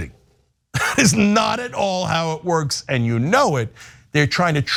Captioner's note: laugh